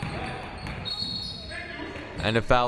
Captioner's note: whistle